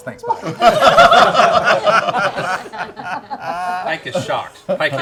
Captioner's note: laughter